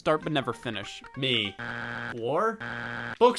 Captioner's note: buzzer buzzing